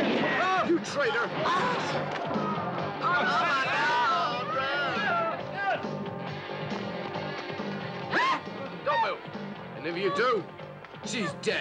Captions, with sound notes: - Ah, you traitor! (people yelling) (upbeat music) (woman screams) - Don't move! And if you do, she's dead.